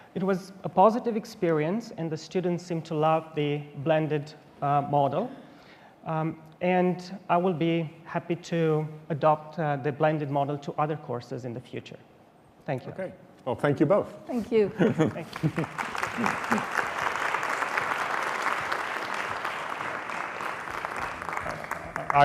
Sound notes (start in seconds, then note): 16.0 laughter; 17.7 applause